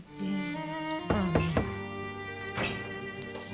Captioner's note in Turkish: kapi çaliyor